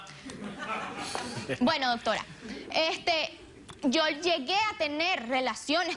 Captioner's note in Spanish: Risas